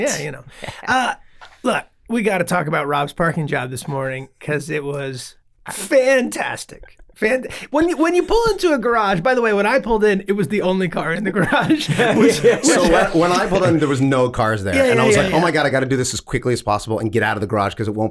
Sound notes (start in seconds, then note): 11.4 all laughing